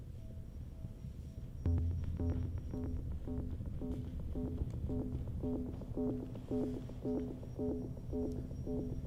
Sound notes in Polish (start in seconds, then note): 1.6 Krótkie, miarowe, elektroniczne łopotanie